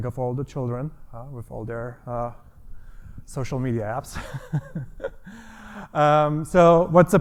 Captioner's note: laughs